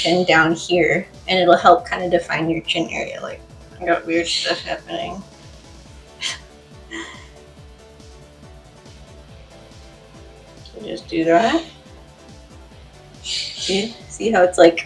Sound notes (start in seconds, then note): 9.0 laughs